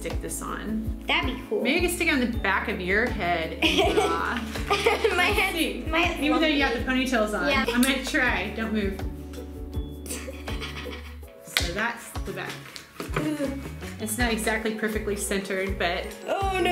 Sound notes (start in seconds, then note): 3.6 giggles; 10.0 giggles